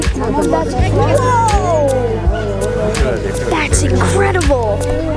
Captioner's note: crowd gasping